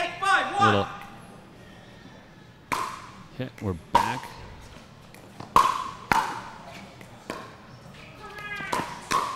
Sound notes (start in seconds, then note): 5.1 ball bouncing